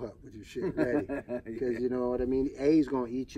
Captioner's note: laughs